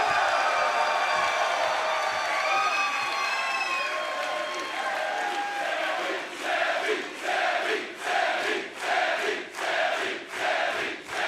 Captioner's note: crowd cheering